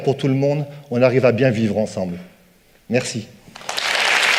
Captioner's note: applause